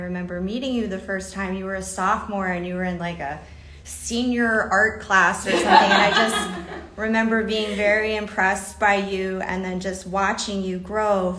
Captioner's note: laughter